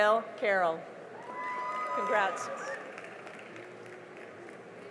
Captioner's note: cheering and applause